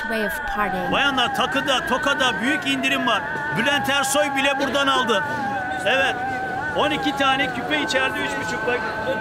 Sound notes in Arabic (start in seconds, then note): 2.3 بالتركية